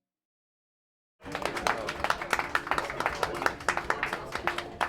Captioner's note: crowd applauding